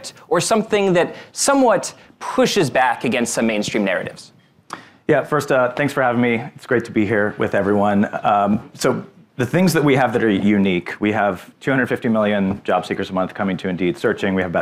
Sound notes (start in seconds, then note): none